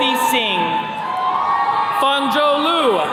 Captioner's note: attendees cheering